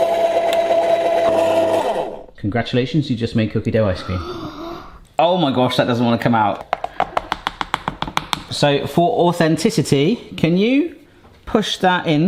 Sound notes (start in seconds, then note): 0.0 ice cream maker whirring; 4.0 gasping; 6.5 piece tapping